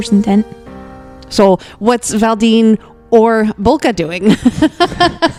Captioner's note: laughs